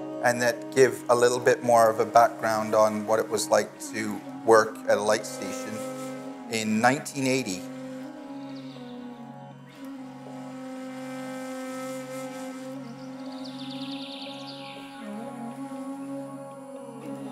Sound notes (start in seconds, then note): 8.7 birds chirping; 11.3 gentle music; 13.3 birds chirping